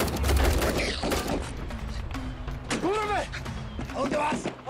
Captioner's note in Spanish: Tiroteo